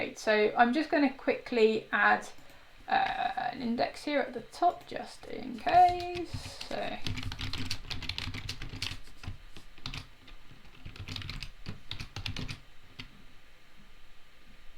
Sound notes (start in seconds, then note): 5.6 keys tapping